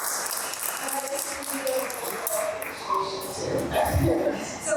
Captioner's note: all applauding; applause drowns out